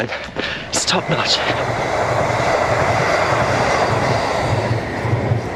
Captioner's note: SWR train passing